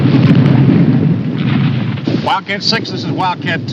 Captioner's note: artillery whizzing